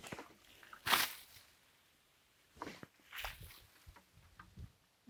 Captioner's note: water splashing